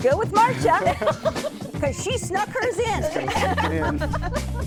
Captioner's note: laughter